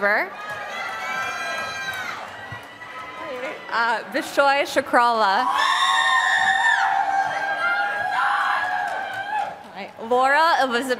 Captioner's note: applause